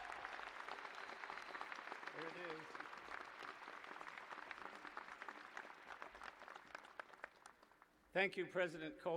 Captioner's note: cheers and applause